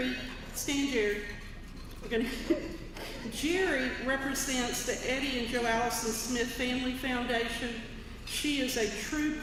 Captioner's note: laugh